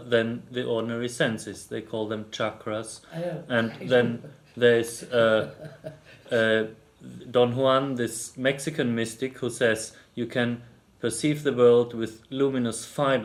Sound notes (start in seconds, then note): 4.9 laughs